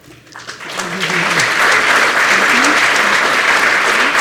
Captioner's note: applause